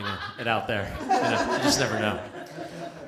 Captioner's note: laughter